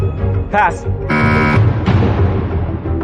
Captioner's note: buzzer sounds